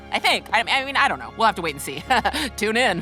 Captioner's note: laughing